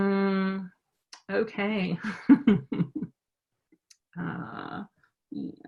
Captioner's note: chuckles